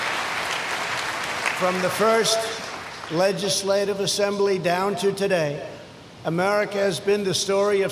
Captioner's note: applause